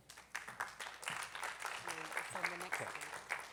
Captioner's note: attendees clapping